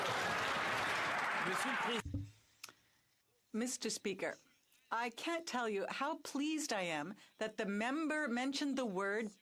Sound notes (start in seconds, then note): 2.5 some Applause; 8.0 speaking French